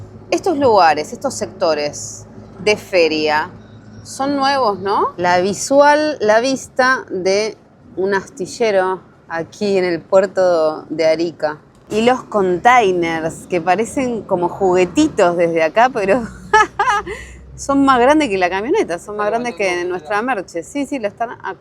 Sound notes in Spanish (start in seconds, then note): 16.4 risas